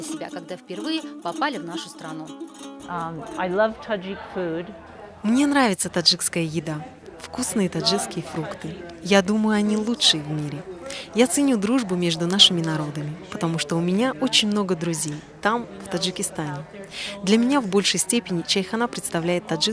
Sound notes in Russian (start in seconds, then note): 2.3 английская речь